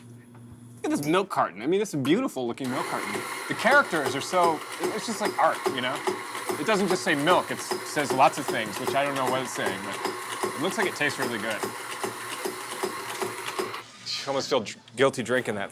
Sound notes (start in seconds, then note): 2.9 coffee grinder whirring; 11.2 loud clanking; 11.2 machine whirring